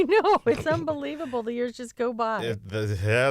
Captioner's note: laughter